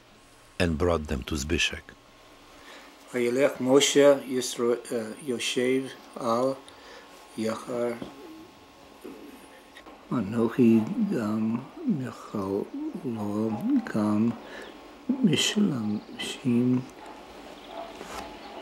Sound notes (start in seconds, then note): 3.5 reading in Hebrew